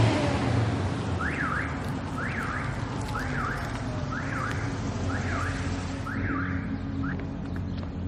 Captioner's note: car alarm sound